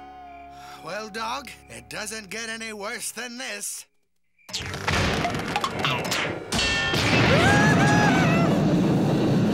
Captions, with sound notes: Well Dog, it doesn't get any worse than this. [screaming]